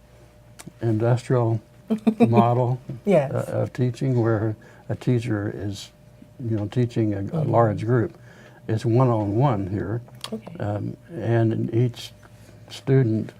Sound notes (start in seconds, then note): 2.0 laughing